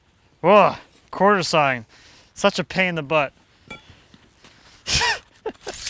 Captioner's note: laughs